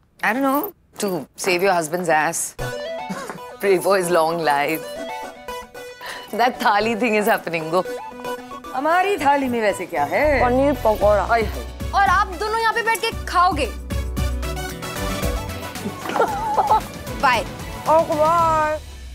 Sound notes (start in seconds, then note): 3.0 laughs; 15.8 Bani & Sheena laughs